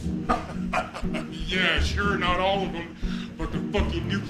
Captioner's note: laughing